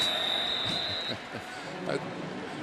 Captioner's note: whistle; pa announcement